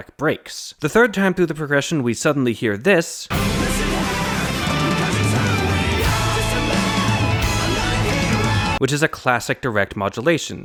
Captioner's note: bang